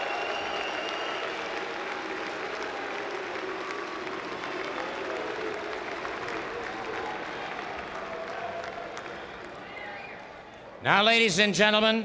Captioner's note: applause